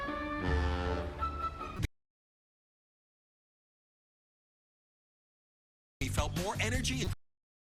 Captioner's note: SFX: funnel horn